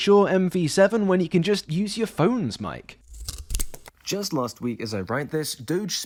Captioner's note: snip